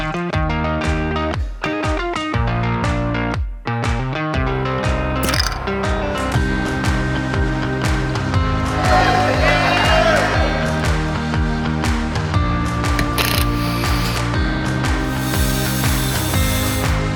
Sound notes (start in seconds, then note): 5.2 mechanical clicking; 10.2 cheers; 12.9 mechanical clicking; 15.0 mechanical whirring